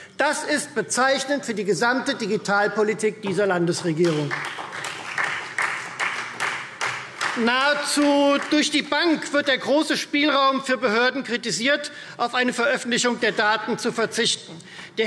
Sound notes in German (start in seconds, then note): 3.8 Beifall Freie Demokraten